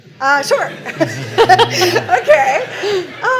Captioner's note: laughter